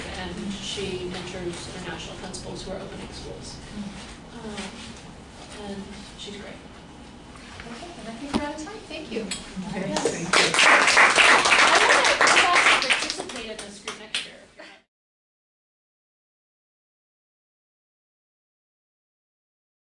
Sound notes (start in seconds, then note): 10.2 applause; 14.6 laughs